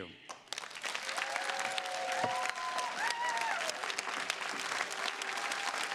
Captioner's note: attendees cheering and clapping